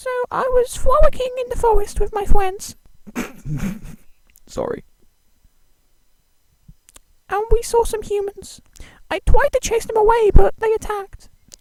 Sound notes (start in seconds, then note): 3.0 keyaruga chuckles